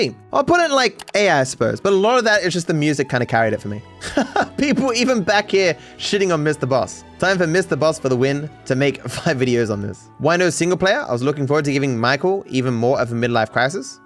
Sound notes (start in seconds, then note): 4.0 laughing, reading comments